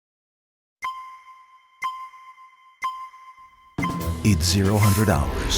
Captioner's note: countdown beeps